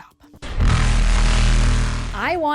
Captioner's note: blaring noise